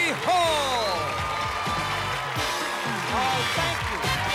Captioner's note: cheers and applause